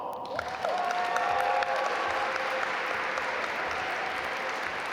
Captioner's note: audience applaud